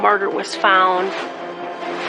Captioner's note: air whooshing